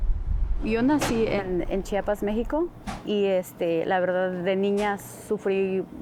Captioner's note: speaking Spanish